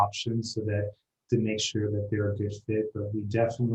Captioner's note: speaking faintly